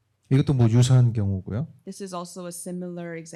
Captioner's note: speaking korean